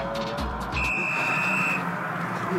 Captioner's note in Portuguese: soprado apito no jogo